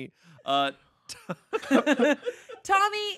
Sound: everyone laughing

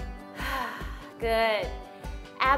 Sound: breathes

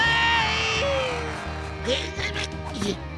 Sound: grunting

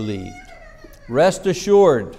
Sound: child crying

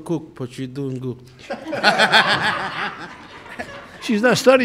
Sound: laughing

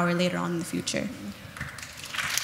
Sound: audience applauds

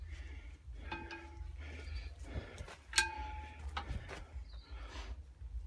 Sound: tinkle tinkle

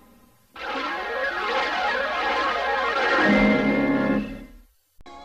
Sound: swirling sounds continuing

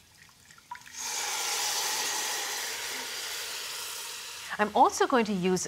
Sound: sizzling

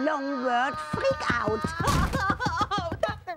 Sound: yelling

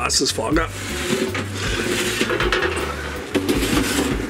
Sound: pan scrapes

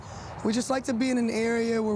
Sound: none

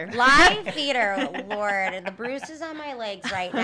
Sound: laughing

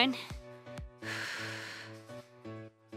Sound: exhales

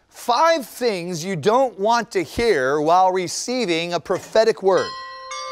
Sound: chimes

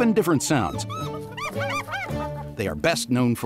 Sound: hyenas laughing sounds

